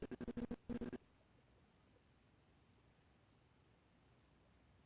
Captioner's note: audio skipping